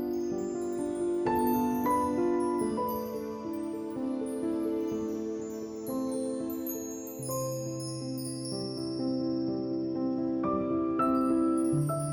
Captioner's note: soft chime sounds